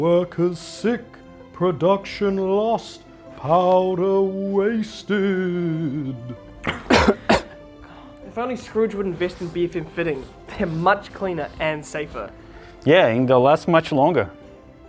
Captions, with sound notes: workers sick, production lost, powder wasted! [cough] If only Scrooge would invest in BFM® fitting, they're much cleaner and safer. Yeah and they'll last much longer!